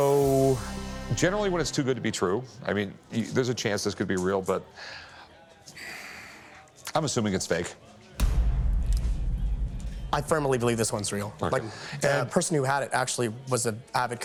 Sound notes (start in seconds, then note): 5.8 exhales; 8.2 tense music